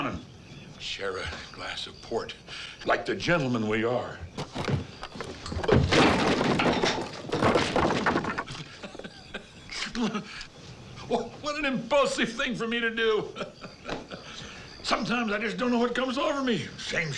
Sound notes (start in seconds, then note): 5.8 blow thumps; 5.8 chair clatters; 8.2 laughing; 11.9 laughs